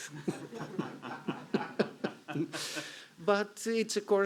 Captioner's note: chuckling